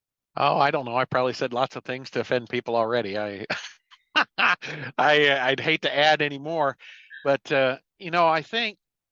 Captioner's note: laughing